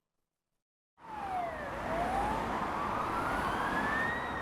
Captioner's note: sirens wailing